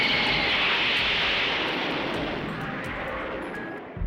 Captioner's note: plane noises